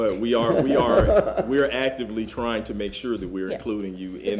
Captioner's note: laughter